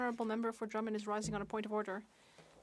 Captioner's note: speaking French